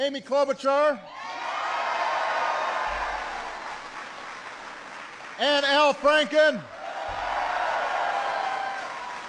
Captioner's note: applause